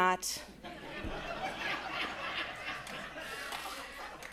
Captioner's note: attendees laughing